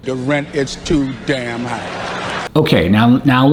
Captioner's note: audience laughs